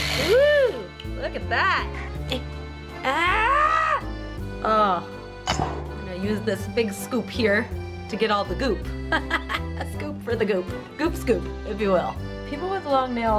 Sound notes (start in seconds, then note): 9.1 laughing